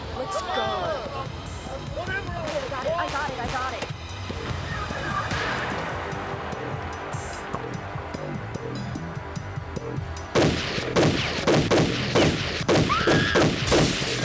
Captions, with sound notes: Let's go. I got it, I got it. [GUNSHOTS]